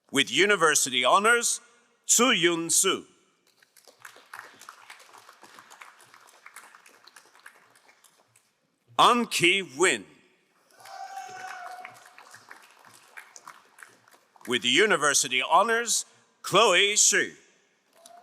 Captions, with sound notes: With university honors, Suyun Su. (crowd applauding) Anki Win. (crowd applauding) With university honors, Chloe Shu.